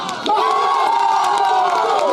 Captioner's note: cheering